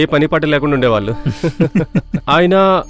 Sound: laughs

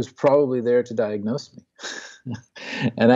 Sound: laughs

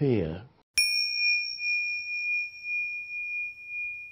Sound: bell chimes

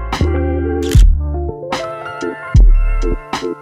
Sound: camera shutter clicks

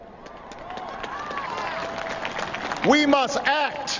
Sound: applause

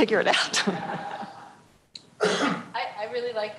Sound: laughter

